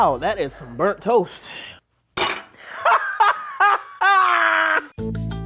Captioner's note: plate crashes; laughs